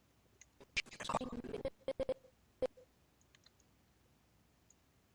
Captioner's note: audio skipping